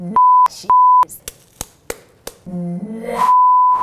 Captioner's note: smacking sounds